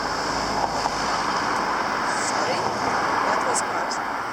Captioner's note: car passing